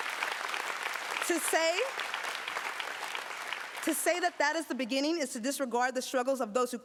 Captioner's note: applause